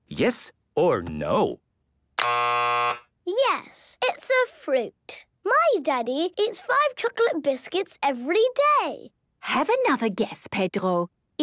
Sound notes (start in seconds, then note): 2.2 buzzes